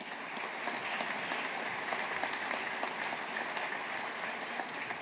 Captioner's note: audience applauding